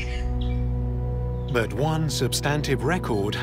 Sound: bird screeching

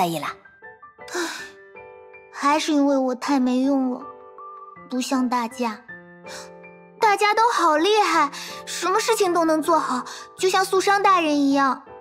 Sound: sigh

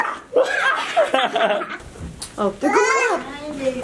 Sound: laughing

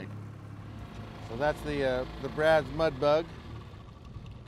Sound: engine running

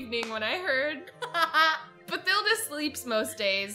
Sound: laughs

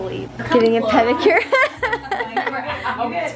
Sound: laughs

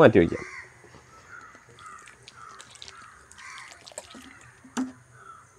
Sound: pouring water

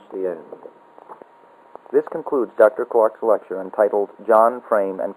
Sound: audiotape

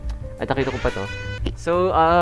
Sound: siren sound

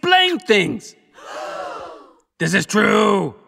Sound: gasps

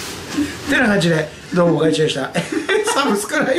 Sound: laughs

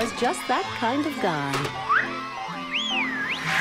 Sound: woman whistles

